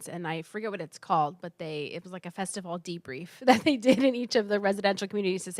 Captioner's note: laugh